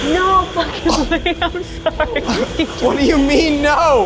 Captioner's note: laughs